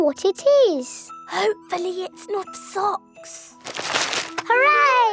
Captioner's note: whispering